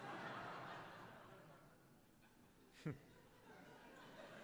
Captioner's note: laughter